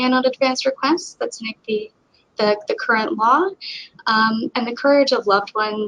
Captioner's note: speaking faintly